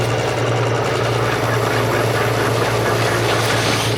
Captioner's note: motor whirring